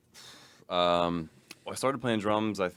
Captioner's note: exhales